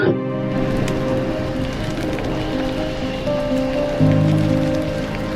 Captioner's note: fire flames crackling; somber music